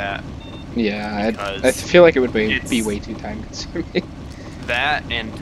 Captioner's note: laughs